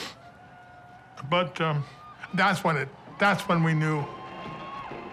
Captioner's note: sniffles